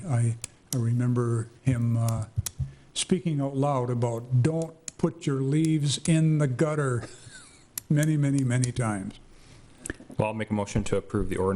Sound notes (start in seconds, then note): 6.9 laughing